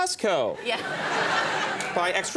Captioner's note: audience laughing